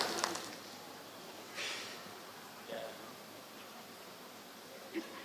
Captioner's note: applause